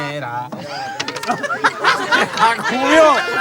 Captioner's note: laughing at in Spanish